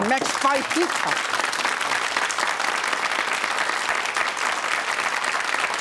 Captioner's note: audience applauds